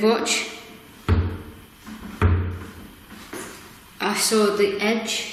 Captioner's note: banging